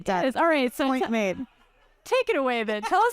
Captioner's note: audience laughs